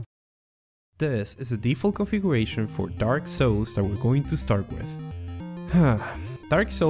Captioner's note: sigh